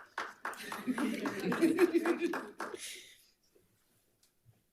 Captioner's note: board members applauding